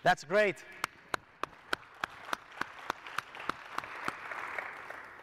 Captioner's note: audience applauding